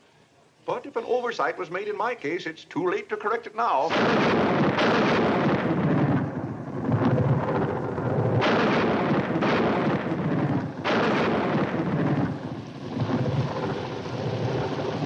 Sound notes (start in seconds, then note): 3.8 thunder crashing